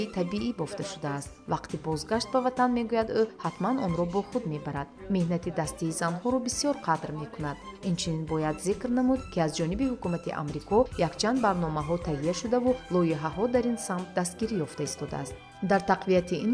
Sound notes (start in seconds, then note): 4.7 journalist narrating in tajik; 11.3 journalist narrating in tajik